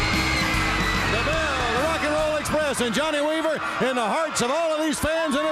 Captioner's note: bell rings